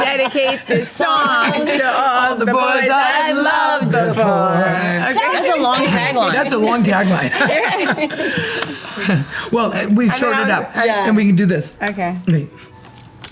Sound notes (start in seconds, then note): 8.1 group laughs